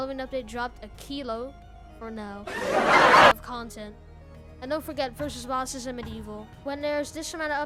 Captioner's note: laugh track